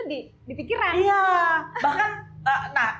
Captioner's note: laughs